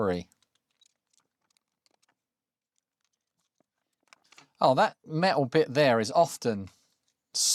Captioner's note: silence